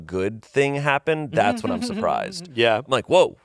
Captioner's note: laughs